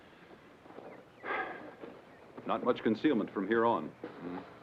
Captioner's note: sighs